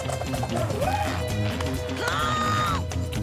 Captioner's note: dramatic orchestral music; Milo laughs